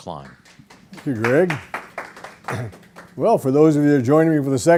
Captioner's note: audience applause